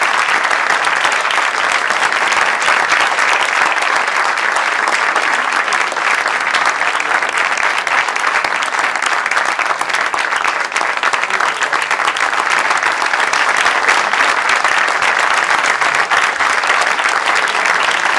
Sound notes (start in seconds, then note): 5.4 applause